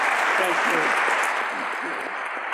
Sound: audience applauds

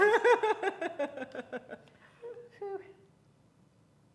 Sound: laughing

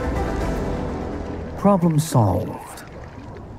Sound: rain

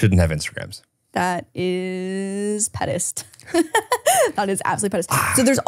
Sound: laughs

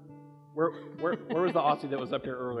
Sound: laughs

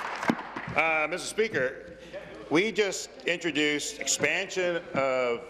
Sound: applause

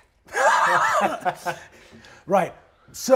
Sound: all laugh

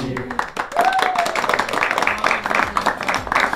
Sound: clapping

